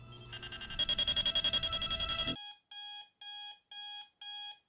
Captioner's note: alarm clock ringing